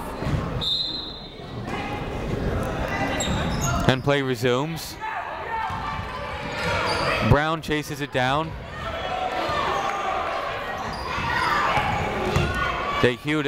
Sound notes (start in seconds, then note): 0.6 whistle tweeting; 5.0 people shouting in the crowd; 8.6 people shouting in the crowd